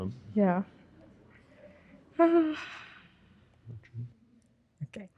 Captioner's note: sighing